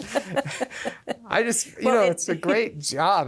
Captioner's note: laughs